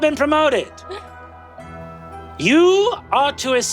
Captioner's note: gasps